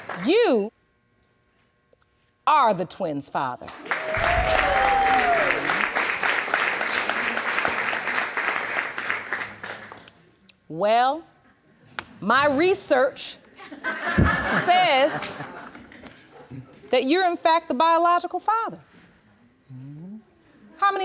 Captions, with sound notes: you are the twins' father. (AUDIENCE CHEERING AND APPLAUDING) Well, my research says (AUDIENCE LAUGHS) that you're, in fact, the biological father.